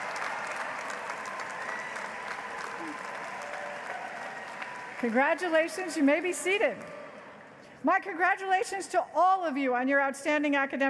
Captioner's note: applause